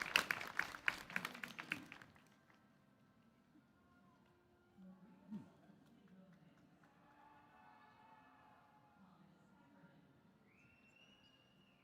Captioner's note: applause